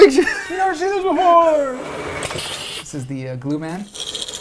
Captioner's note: laughs